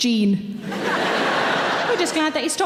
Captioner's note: audience laughing